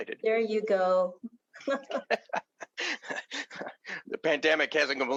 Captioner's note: laughter